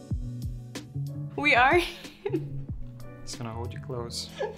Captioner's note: gentle upbeat music; laughing